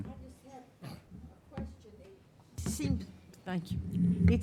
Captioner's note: speaking faintly